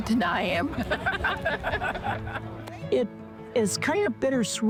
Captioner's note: people laughing